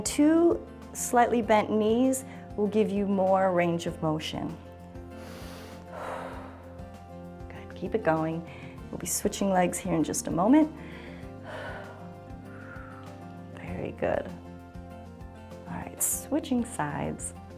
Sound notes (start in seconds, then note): 5.1 inhales and exhales; 10.8 exhales